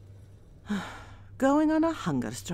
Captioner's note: sigh